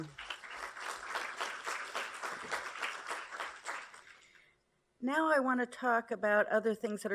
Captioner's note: applause